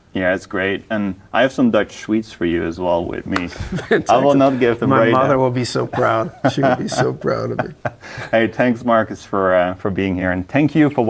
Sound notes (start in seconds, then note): 3.4 laughing